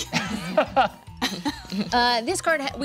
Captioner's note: group laughing